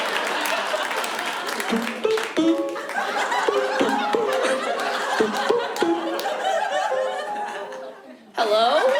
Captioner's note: imitates Skype ringtone